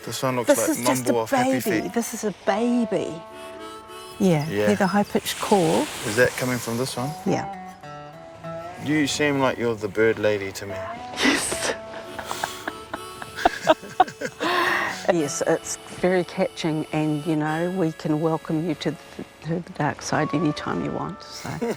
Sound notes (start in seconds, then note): 0.4 giggles; 11.2 laugh; 21.5 laughs